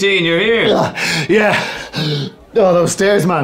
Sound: gasping

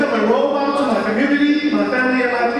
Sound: audience speaking

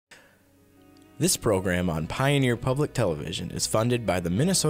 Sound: voiceover

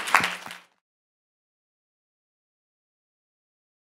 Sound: audience clapping

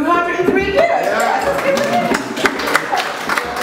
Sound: applause

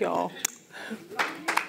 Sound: kisses hand; audience applauds

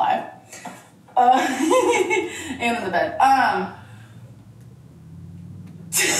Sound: laughs

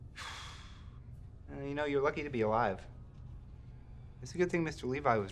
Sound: exhales

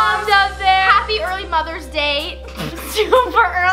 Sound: laughs

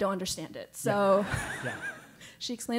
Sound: laugh

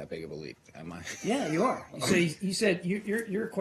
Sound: laughter

